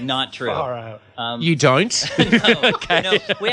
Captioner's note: laughs